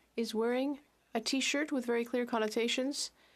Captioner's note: speaking French